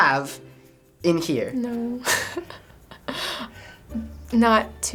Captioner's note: laughs